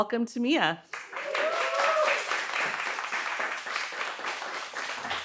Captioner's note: audience cheering